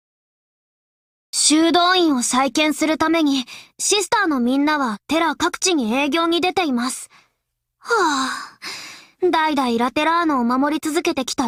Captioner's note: sigh